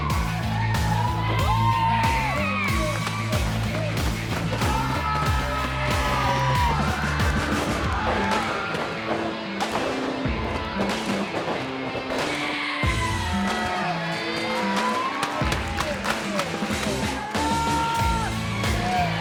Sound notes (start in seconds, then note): 2.5 crowd yelling; 13.8 crowd yelling